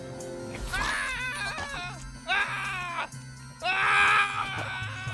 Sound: Darnell screaming

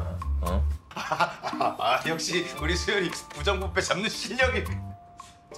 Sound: laughs

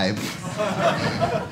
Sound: audience laughing

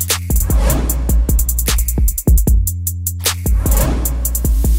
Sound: upbeat music; swooshing noises

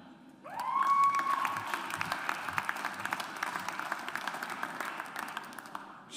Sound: audience applauds

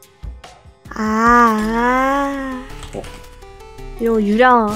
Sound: cries

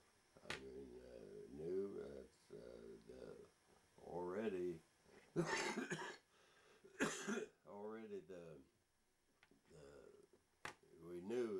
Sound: coughs

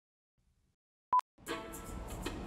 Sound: beep; upbeat music

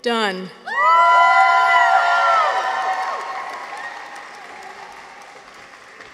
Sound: people cheer; audience applauds

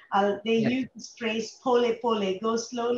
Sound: speaks in foreign language

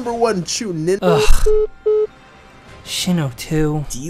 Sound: Sasuke sighs; phone beeping

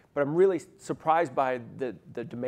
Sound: none

